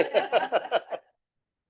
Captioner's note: laughing